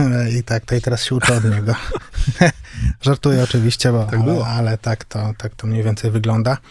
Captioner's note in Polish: śmiech